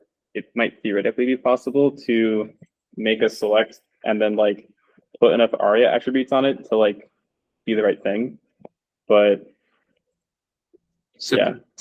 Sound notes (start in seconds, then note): none